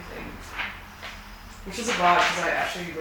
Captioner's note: paper rustling